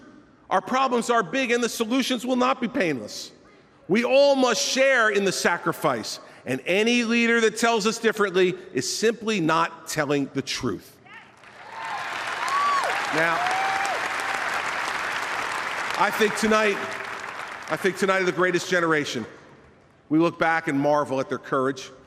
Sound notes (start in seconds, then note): 14.7 applause